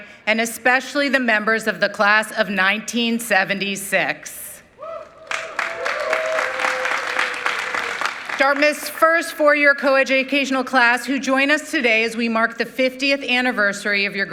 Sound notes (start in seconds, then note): 4.8 audience cheering